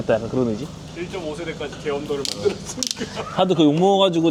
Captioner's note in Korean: ㅋㅋ